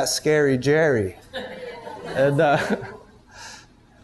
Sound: students laugh and murmur

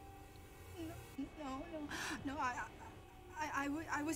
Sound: mumbles nervously

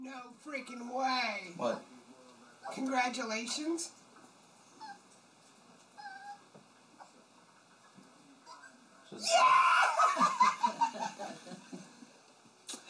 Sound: laughter

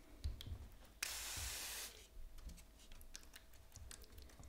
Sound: sprayer fizzing

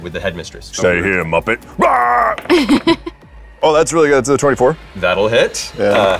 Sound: yells

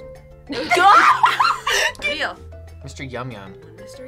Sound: laughing

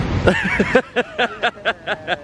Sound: laughing

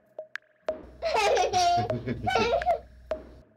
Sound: child and man laughing

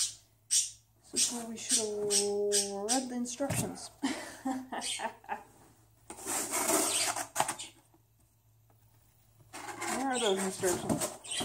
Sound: laughs

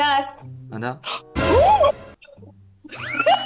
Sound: gasp

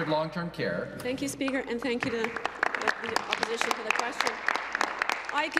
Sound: applause

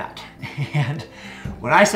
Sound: laughs

